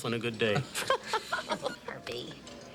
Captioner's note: Desiree laughs